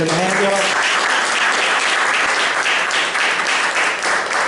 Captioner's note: applause